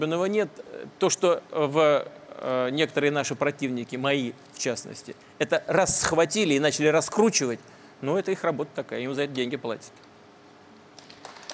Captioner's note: applause